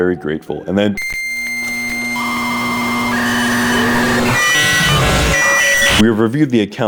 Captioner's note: dial-up sounds